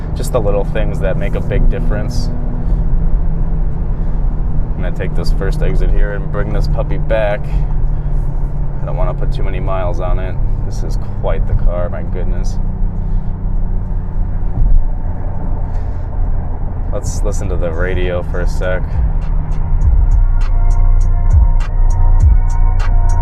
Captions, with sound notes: Just the little things that make a big difference. I'm gonna take this first exit here, and bring this puppy back. I don't wanna put too many miles on it, this is quite the car, my goodness. (low thud) Let's listen to the radio for a sec. (low bass music)